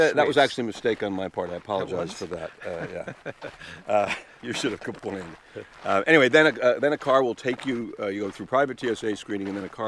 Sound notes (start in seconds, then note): 1.8 laughing